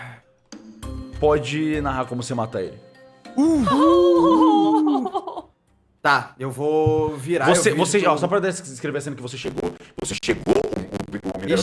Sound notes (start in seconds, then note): 3.3 happy noises